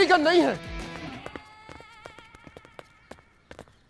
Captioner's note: Footsteps